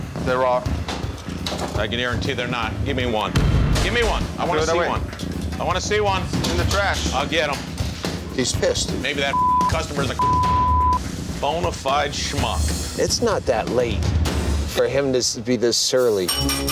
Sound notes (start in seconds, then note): 10.1 beep; 16.5 rings bell